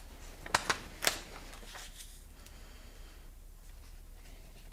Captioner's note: pages flapping